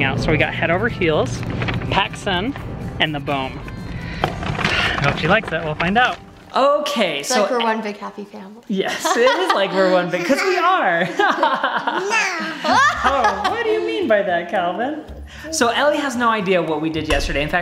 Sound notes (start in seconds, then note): 10.7 laughs; 12.4 laughs loudly